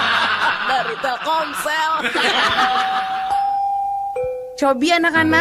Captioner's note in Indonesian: tertawa